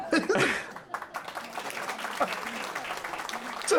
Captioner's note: applause